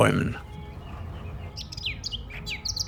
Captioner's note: birdsong